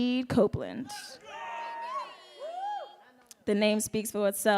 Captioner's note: audience cheering